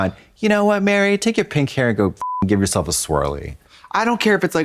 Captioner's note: beep